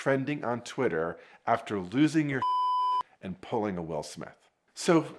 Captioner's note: beep